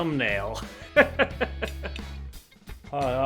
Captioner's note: laughs